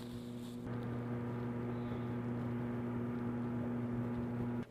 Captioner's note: humming in distance